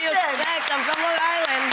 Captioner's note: audience applauds